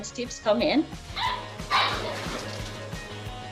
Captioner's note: puppies barking